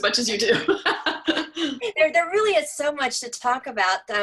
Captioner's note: laugh